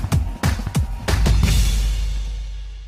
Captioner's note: cymbals, fireworks